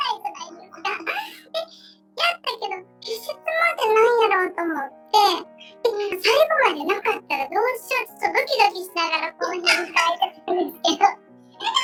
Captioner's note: laughs